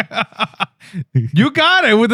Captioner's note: laughing